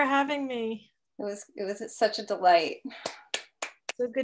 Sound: claps

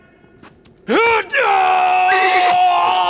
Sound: grunts

